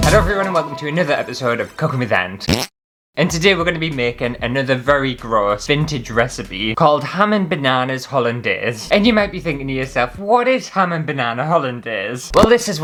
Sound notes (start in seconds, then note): 2.4 fart!